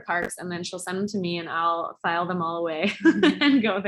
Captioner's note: laughs